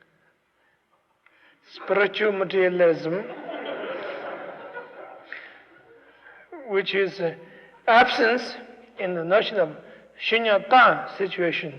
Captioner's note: laughter